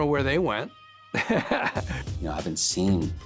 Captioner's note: laughs